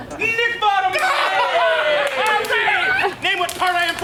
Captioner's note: Bottom laughs